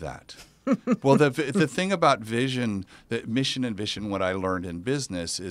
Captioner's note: laugh